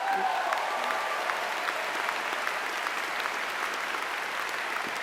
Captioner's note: audience applauding